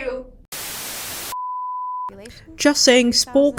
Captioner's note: static